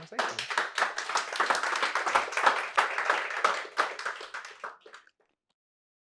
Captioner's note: applause